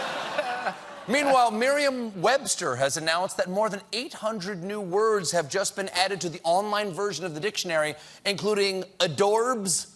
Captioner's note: laughter